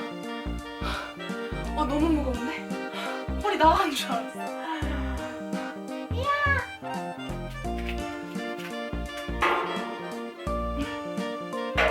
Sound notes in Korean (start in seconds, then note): 2.7 들숨 날숨